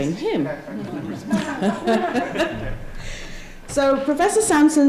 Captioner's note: laughter